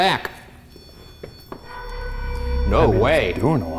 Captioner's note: REM-POD beeps